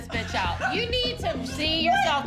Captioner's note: laughter